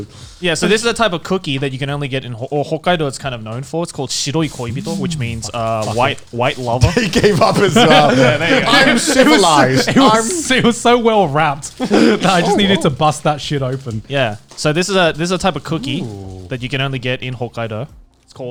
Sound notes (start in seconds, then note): 6.4 laughing